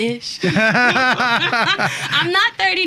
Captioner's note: both laughing